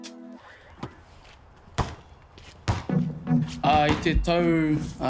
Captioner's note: bouncing ball on the floor